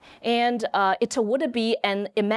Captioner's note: none